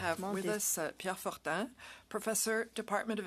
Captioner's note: speaking French